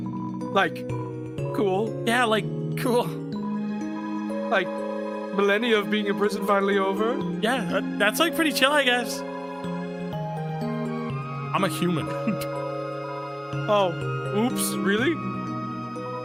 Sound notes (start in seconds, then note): 12.2 laughs